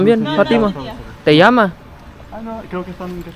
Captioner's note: Spanish; Spanish